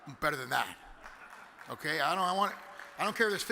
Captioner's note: clapping intensifies